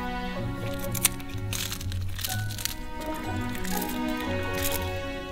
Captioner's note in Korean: 바스러지는 소리